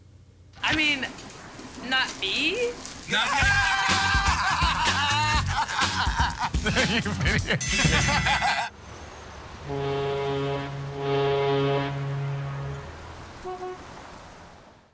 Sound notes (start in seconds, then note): 3.3 laughter; 5.1 laughs